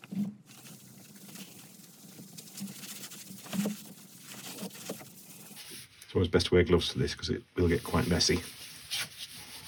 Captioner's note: buffing Sounds